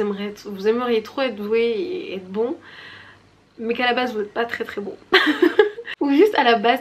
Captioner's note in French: rires